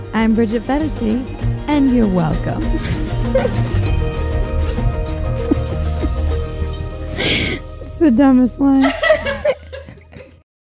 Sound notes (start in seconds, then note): 2.8 laughing; 8.8 laughing